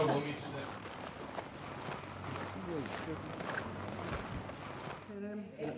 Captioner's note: footsteps crunching